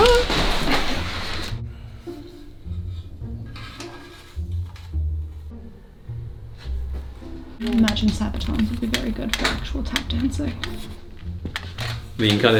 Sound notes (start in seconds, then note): 0.0 curtains rustling; 3.4 metal rasping; 3.7 gentle music continues; 11.1 metal clanking